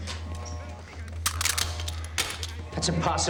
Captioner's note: clattering